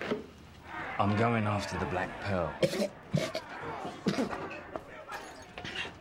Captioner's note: coughing